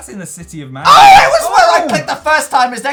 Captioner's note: screams so loud